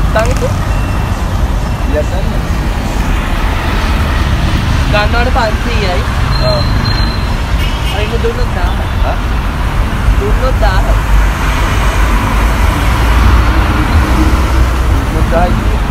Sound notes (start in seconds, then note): 4.7 conversation